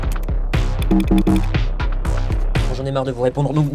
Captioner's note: clicks, error beep